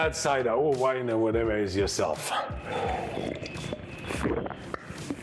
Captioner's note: slurps